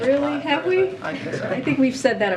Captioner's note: laughter